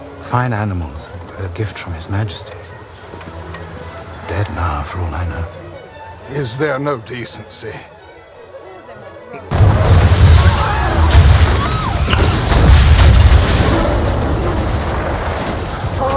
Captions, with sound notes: Fine animals, a gift from His Majesty. Dead now, for all I know. - Is there no decency? (explosion) (crowd exclaiming)